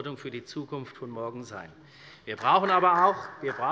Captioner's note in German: Beifall